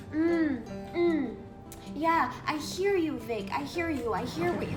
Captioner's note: none